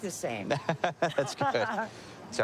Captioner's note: laughing